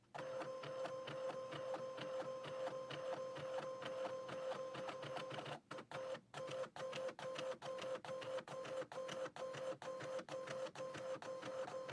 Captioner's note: printer Noises